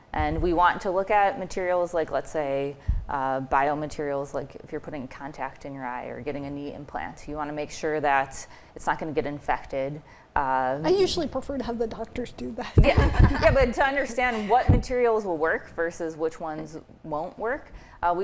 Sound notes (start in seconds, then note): 12.8 laughing